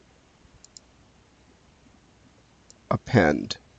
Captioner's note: mouse clicking